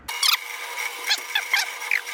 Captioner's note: sawdust squeaking